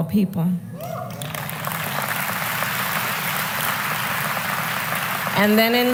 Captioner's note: applause